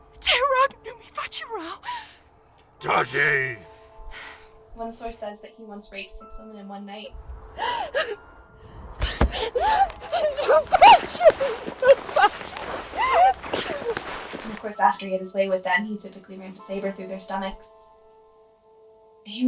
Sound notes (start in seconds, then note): 0.2 victim speaks foreign language; 2.8 Chemock speaks foreign language; 9.0 victim pants and sobs; 10.4 victim speaks foreign language